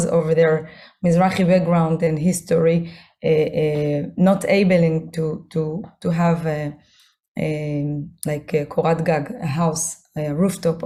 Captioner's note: hebrew